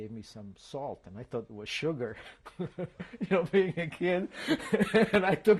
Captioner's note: laughs